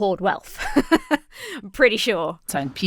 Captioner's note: chuckles